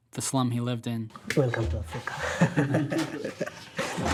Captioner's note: laughing